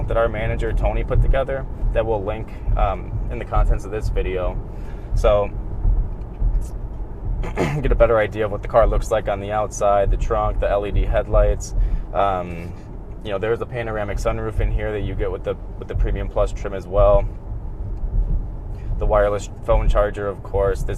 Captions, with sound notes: that our manager Tony put together that we'll link, in contents of this video, so, (clears throat) get a better idea of what the car looks like on the outside, the trunk, the LED headlights, you know, there's the panoramic sun roofing here that you get with the, with the premium plus trim as well. The wireless phone charger of course,